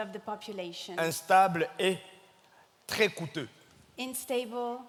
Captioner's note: speaking in French